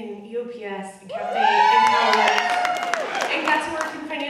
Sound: audience cheering

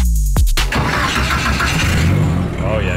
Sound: engine starting

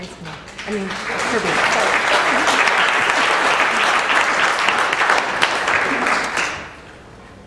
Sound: applause

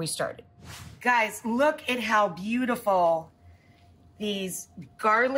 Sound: air whooshes

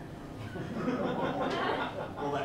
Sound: laughter

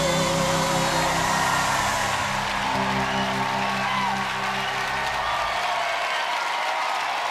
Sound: audience cheering

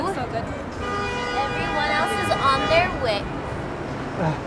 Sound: car honking

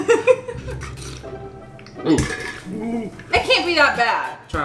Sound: laughing; gulping water

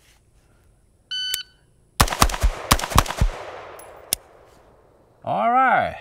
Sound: timer beeps; rifling firing

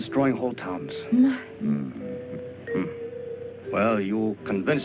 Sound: Nobuyo gasps

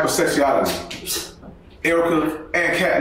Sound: Kate scoffs

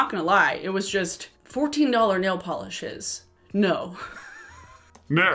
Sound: laughs

